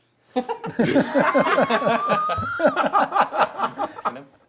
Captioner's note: laughing